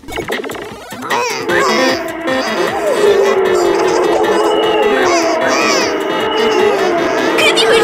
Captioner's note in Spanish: Ruidos de motor